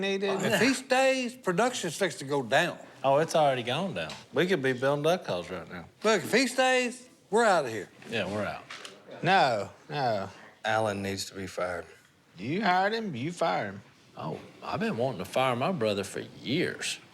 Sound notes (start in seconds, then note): none